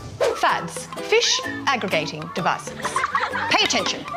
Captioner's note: juvenile fish laugh